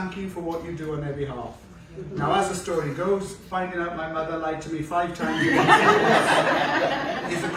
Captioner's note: laughter